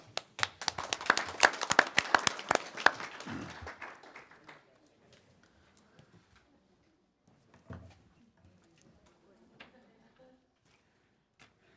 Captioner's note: applause